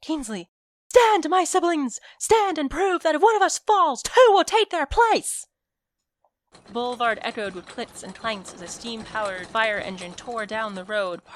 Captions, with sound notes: "Kingsley—" "Stand, my siblings, stand and prove that if one of us falls, two will take their place." [clicks and clanks] The boulevard echoed with clicks and clanks as a steam-powered fire engine tore down the road,